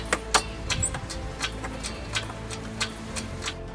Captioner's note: winch cranking